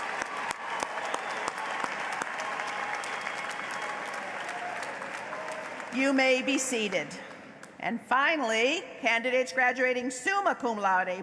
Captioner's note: applause